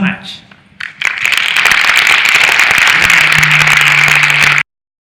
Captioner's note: audience applauding